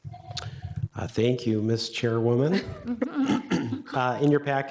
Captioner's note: chuckles